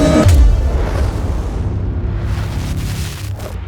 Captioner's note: earth-shattering kaboom